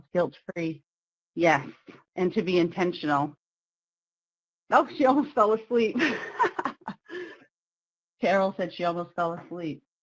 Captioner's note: laughs